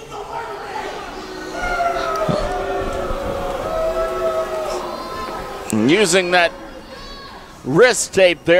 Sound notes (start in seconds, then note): 0.0 crowd boos and jeers